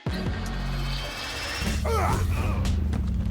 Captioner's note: grunting